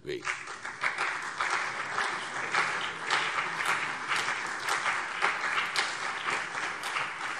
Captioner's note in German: Beifall CDU und BÜNDNIS 90/DIE GRÜNEN